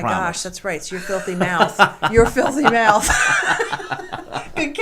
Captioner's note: laughing